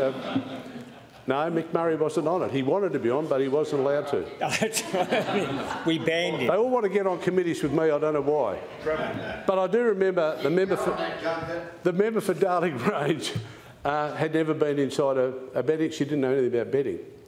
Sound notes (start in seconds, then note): 4.4 laughs; 13.2 laughs